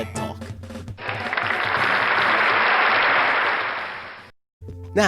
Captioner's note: applause